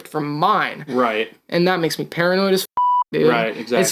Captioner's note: beep